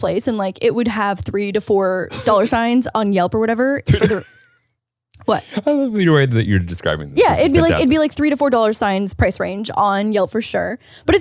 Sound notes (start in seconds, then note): 3.8 laughs